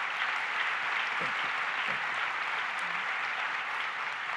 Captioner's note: applause